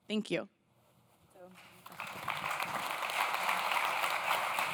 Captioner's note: audience claps